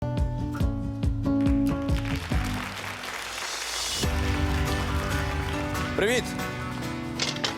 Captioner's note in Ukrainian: оплески